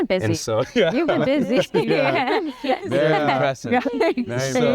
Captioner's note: laughs